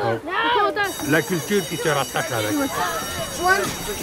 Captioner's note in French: Cloche d'école